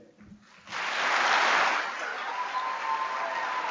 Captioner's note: applause